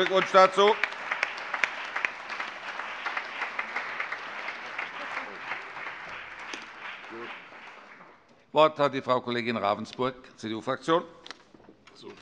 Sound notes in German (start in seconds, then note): 2.8 Beifall